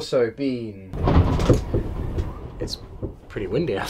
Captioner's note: all the wind